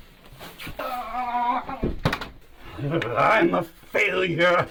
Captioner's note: Dawn Avenger grunting